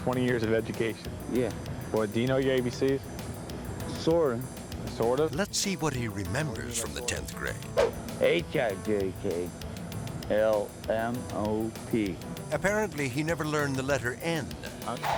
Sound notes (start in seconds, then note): 8.0 air whoosh